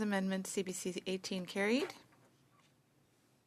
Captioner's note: speaking French